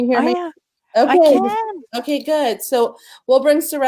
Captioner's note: laughing